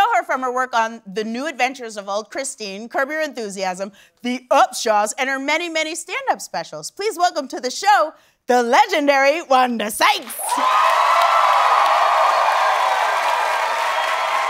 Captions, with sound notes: from her work on "The New Adventures of Old Christine," "Curb Your Enthusiasm" "The Upshaws," and her many, many stand-up specials. Please welcome to the show, the legendary Wanda Sykes. [cheers and applause]